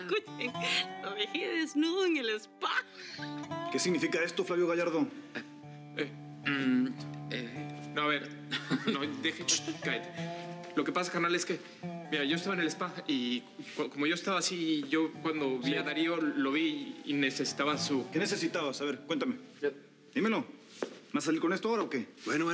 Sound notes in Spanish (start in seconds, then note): 6.0 ambos tartamudean; 8.4 risas